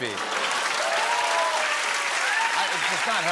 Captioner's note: cheers and applause